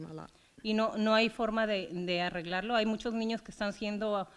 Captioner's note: foreign language